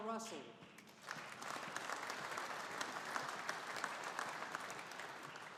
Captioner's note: audience applauding